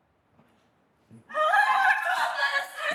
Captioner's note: screaming